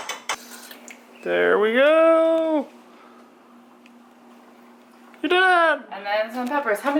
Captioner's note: metallic tapping noise; whispers; sound of water running